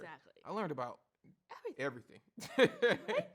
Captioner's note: laughs